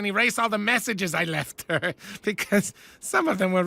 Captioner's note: chuckles